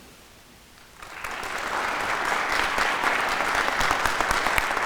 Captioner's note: audience applauding